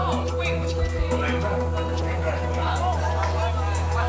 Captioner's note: students chatter